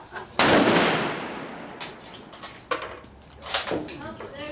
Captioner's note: laughter; gunfire